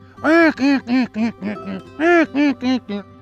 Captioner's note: Imite des bruits de canards